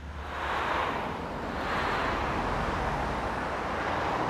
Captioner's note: traffic whooshing